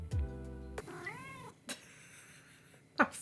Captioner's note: Padme meowing